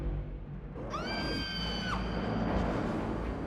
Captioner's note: piercing scream